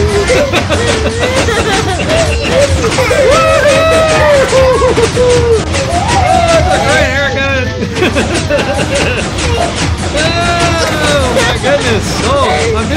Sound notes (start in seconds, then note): 0.0 both laughing; 2.6 pistons crunching; 7.7 both laughing